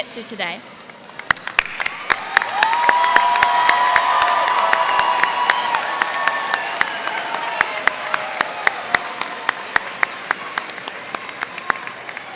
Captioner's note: cheers and applause